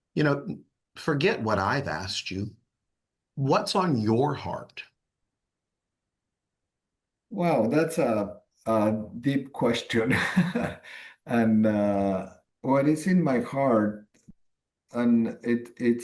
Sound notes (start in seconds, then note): 9.6 chuckles